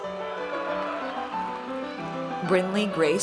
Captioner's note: audience cheers